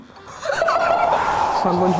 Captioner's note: laughing with disappointment